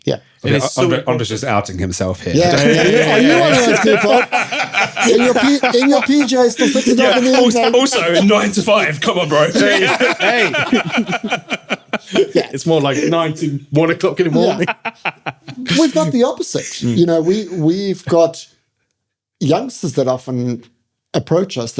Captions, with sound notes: Yeah. Andre's just outing himself here. Are you one of those people? (all laughing) In your PJs until 6 oclock in the evening Also "nine to five", come on bro. (all laughing) It's more like nine to one o'clock in the morning. (laughing) We've got the opposite. You know, we, we've got youngsters that often approach us